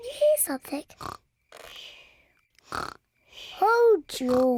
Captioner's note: snoring